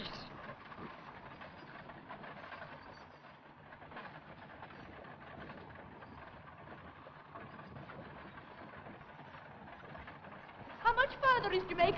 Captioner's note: carriage rattles & wind blows